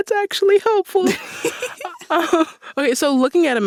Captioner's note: laughter